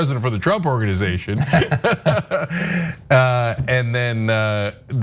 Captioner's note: laugh